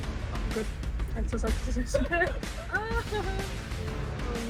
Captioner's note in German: lacht nervös